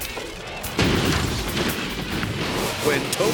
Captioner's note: car thuds